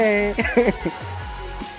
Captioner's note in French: rires